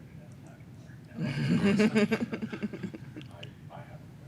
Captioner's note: laughter